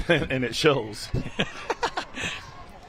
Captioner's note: laughter